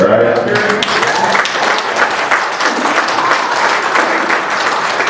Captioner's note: cheering